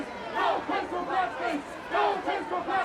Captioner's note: shouting continues